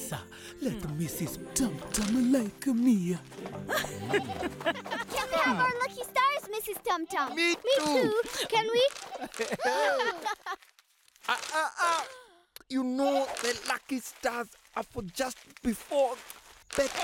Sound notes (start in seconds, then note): 3.4 laughing; 8.1 gasping